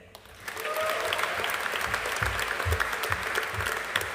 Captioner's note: audience applauding